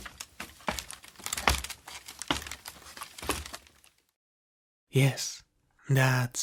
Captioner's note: sound of stumbling; stumbling sound; sound body falls to the ground